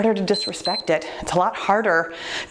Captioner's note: timer beeps